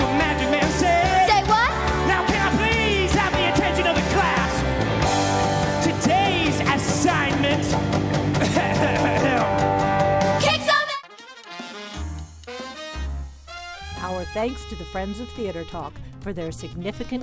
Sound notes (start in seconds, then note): 8.4 clears throat; 9.7 jazz music plays